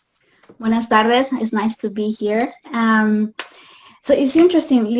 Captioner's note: spanish